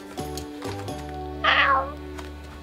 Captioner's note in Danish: Meow